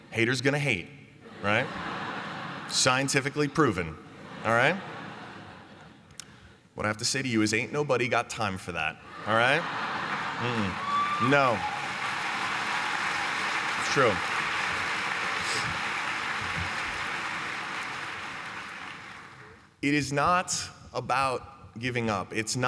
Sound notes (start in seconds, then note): 1.2 laughter; 9.3 cheering and clapping